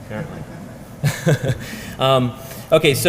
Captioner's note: laugh